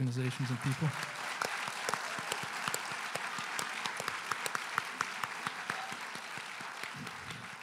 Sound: applause

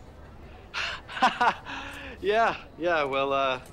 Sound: laughs

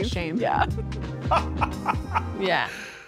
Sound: laughing

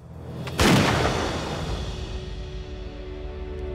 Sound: fires rifle; triumphant music

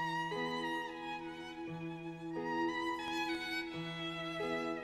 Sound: none

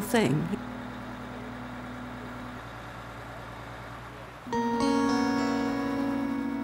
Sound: machinery sounds

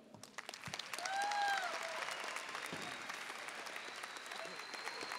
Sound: audience cheering and applauding

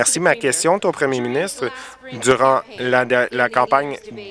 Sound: applause

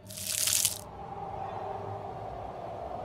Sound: wind howling

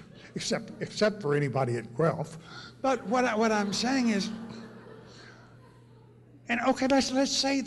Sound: laughter; laughter

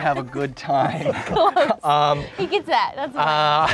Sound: all laughing

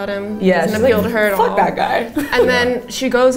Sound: laughing

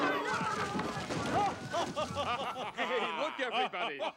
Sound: laughter

